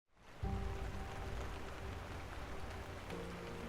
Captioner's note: rain drizzling